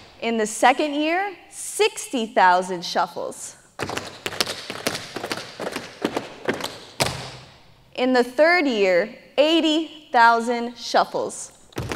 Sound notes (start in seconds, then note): 3.8 tap shoes striking the floor